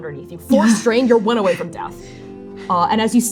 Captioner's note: pained gasping